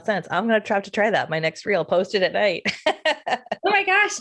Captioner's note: laughs